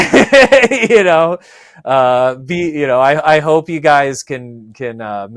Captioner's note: laughs